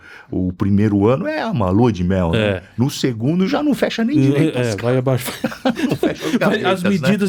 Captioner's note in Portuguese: risadas